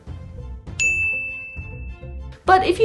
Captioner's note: ding